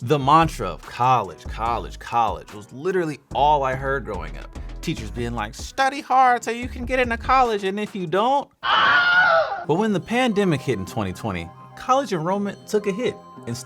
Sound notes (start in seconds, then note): 8.6 teacher screams